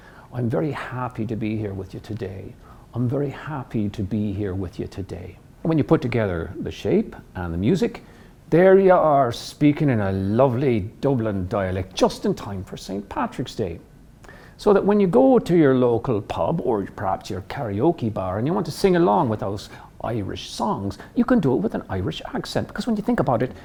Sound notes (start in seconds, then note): 0.2 in Irish accent; 7.6 in Irish accent